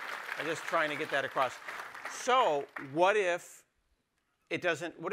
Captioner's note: applause